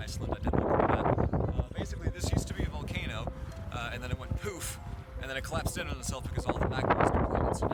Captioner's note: poof